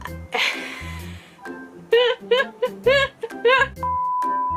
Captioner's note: starts laughing